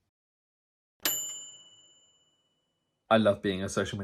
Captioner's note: bright bell dinging